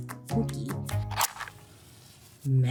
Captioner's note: flame hisses